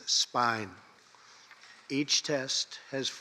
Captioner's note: none